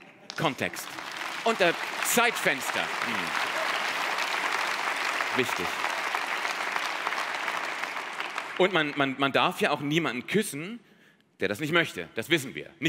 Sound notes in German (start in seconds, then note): 4.1 Applaus